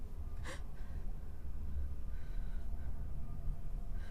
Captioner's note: Maria gasps